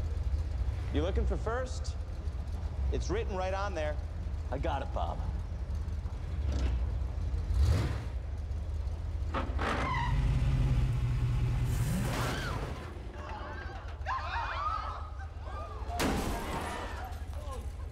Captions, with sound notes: You looking for first? It's written right on there. I got it, Bob. [ Tires Squeal ] [ Thumps ] [ People Shouting ] [ Crashes ]